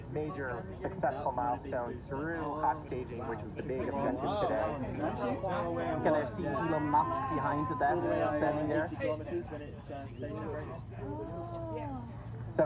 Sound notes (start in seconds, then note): 5.4 crowd impressed wows